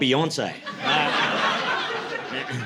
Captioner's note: laughter